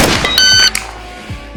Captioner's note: shot timer; safety clicks